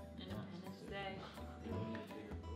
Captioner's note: whispers